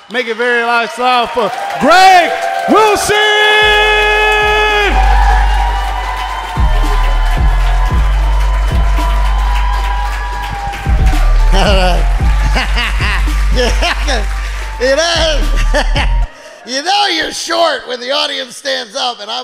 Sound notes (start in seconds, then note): 3.4 crowd cheering; 3.4 pumping music; 11.4 laughs